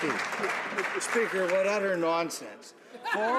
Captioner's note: some Applause